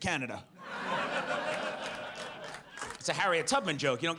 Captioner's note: audience laughs